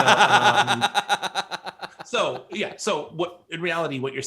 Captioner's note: laughs